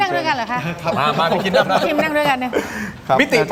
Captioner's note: laughs